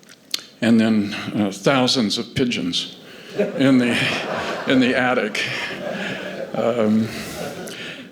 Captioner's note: laughter